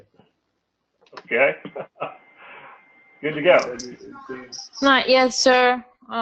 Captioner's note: laugh